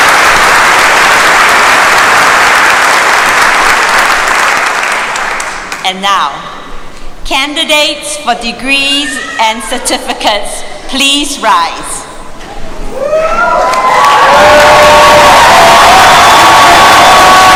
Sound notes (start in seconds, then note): 4.8 applause